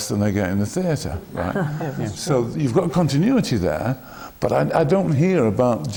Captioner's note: laughter